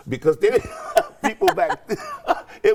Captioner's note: laughing